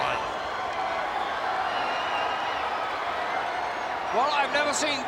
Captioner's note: audience applauding and cheering